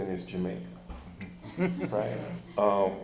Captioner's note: chuckles